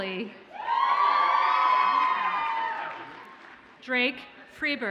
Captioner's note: audience cheers and applauds